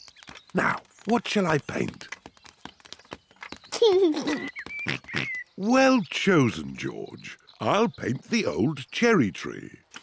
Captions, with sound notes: Now, what shall I paint? (GIGGLES) Oink-oink! Well chosen, George. I'll paint the old cherry tree.